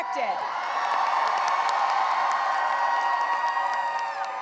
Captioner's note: cheering and applause